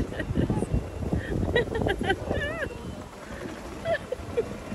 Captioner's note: laughing